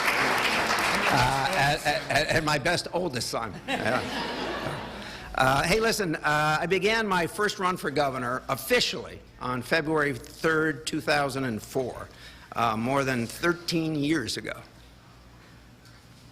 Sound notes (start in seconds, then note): 0.0 applause; 1.9 laughter; 2.3 applause